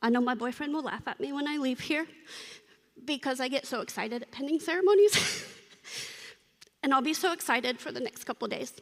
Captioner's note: laughter